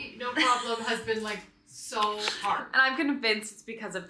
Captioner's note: laughing